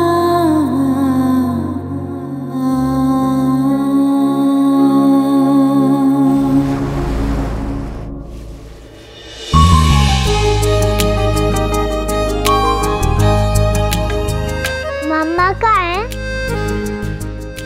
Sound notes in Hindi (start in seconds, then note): none